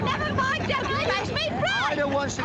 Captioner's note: laughing, chattering